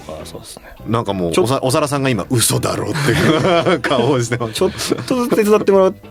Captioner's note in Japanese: 笑い